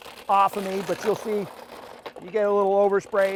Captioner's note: grinder grinding